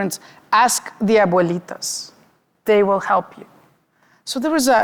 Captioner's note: speaking Spanish